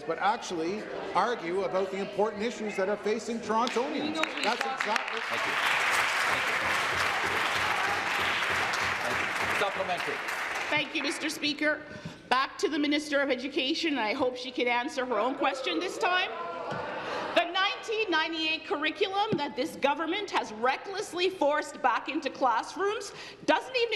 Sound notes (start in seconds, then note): 8.7 applause